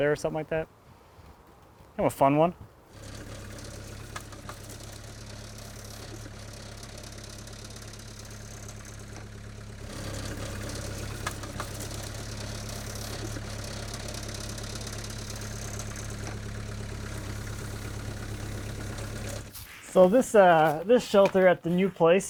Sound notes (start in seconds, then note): 3.1 engine roaring